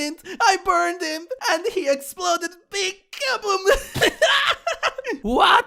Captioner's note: laughs